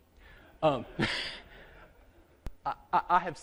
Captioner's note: laughter